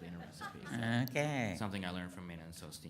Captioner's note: audience laughs